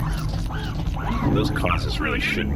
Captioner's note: weaver and mech footsteps fade, exterior noises